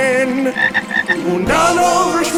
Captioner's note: frog croaking